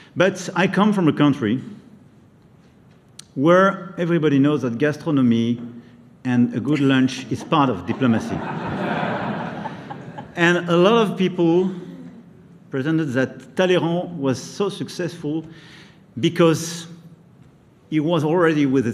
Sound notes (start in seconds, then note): 7.8 laughter